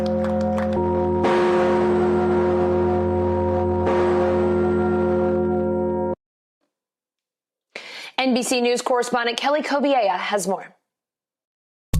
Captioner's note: bell ringing